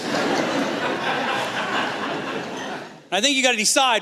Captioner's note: laughter